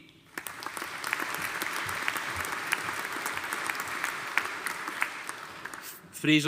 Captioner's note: audience applauding